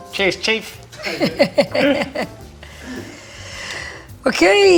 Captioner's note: both chuckling